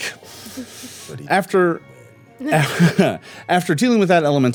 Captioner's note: laughing